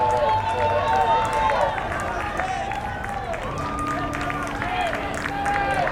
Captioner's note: crowd cheering and yelling